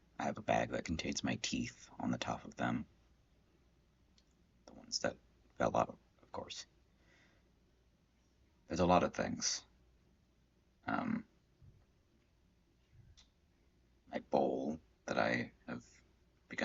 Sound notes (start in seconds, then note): 9.6 silence